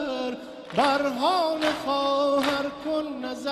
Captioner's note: rhythmic slapping